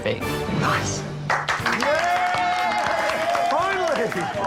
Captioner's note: all cheering and applauding